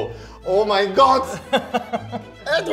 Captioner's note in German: Lachen